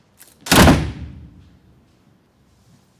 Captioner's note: door slamming